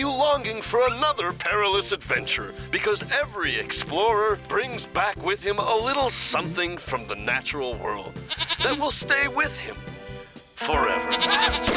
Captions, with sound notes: WILL LEAVE YOU LONGING FOR ANOTHER PERILOUS ADVENTURE, BECAUSE EVERY EXPLORER BRINGS BACK WITH HIM A LITTLE SOMETHING FROM THE NATURAL WORLD... (bleats) THAT WILL STAY WITH HIM... FOREVER.